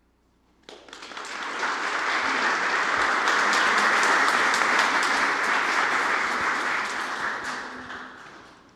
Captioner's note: applause